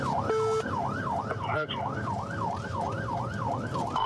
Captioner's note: sirens wailing